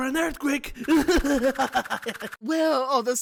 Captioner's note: yang laughs